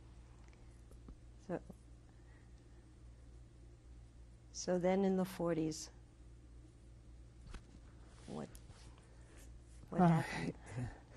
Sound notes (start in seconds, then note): 2.7 pauses for 3 seconds